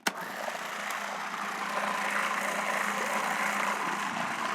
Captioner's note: food processor whirring